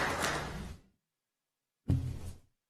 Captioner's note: applause